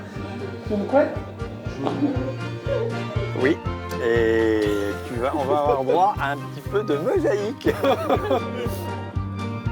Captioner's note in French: rires